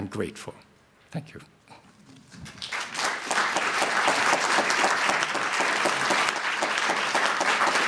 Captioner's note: applause